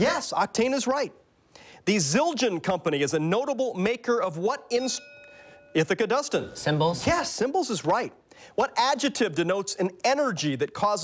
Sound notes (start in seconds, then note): 4.6 bell dings